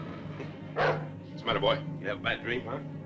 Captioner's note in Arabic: ينبح الكلب